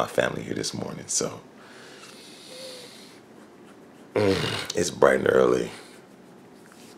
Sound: sighs

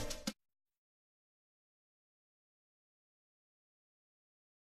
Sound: silence

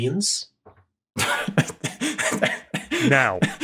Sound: chuckles gleefully

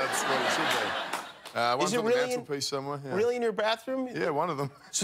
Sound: laughter

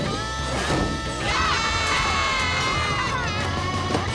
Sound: screaming

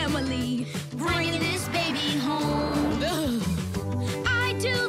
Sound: shivers

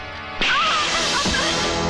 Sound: slap

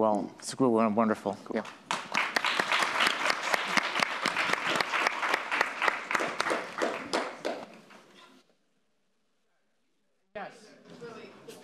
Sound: applause

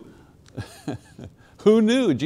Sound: laughs

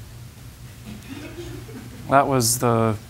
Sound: laughter

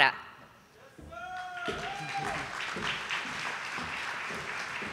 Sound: audience applauding

